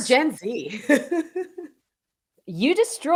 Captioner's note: chuckling